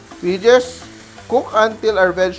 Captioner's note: sizzle